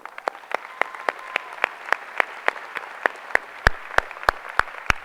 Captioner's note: applause